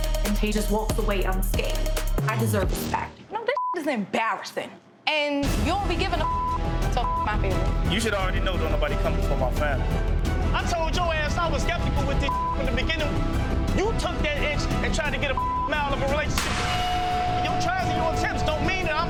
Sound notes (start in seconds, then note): 3.5 beep; 7.0 beep; 12.3 beep; 15.4 beep